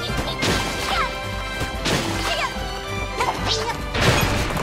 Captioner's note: explosions go off; rocks crash; exciting western music